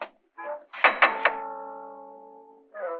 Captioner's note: knocking on door